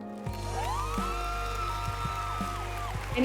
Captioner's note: cheering and applauding